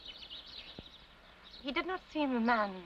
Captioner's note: birds chirping